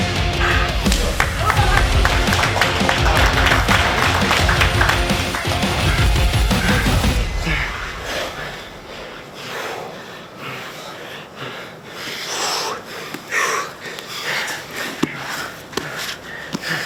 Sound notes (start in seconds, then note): 2.0 audience clapping